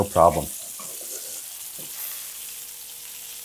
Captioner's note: sizzling